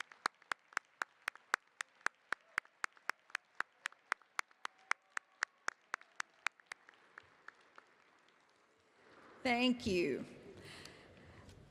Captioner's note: applause